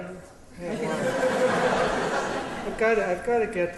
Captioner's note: laughter